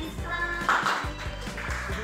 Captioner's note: clappings